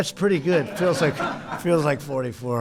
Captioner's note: laughter